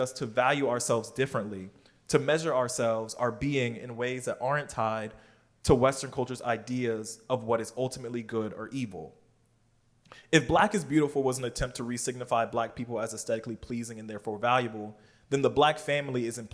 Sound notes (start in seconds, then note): none